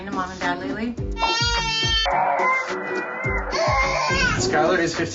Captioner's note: cries